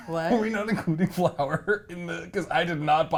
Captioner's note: laughs